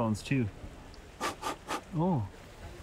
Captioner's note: blows